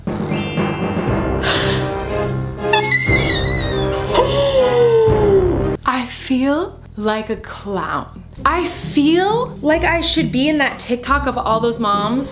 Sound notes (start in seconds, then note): 0.0 dramatic music; 0.0 sparkling sound; 2.6 shrieks; 4.1 gasps